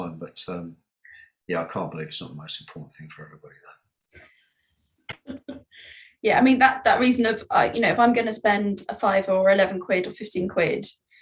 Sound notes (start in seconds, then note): 5.1 laughing